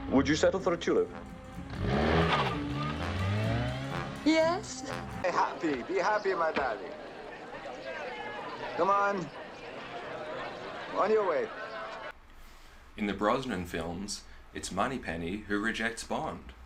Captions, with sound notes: Would you settle for a tulip? [Engine revving] Yes! Be happy! Be happy, my darling! [Thud] Come on. [Crowd chattering] On your way. In the Brosnan films, it's Moneypenny who rejects Bond.